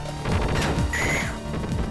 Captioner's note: machine gun fire; death scream